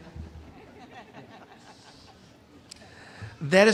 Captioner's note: audience laughing